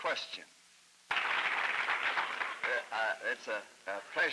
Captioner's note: applause